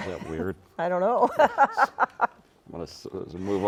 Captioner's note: laughing